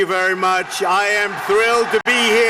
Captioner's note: applause